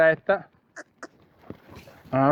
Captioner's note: cluck